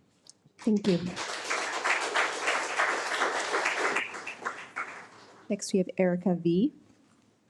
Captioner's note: audience applauding